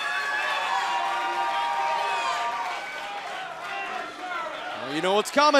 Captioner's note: cheers & applause